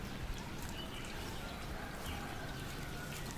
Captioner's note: none